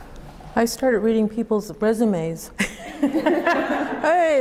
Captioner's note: laughs